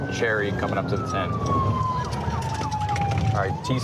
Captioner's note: sirens